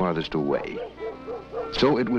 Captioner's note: dog barking